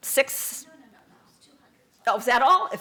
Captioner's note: voiceover